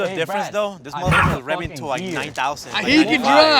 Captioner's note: Mochi barks